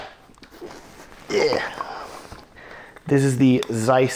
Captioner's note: grunts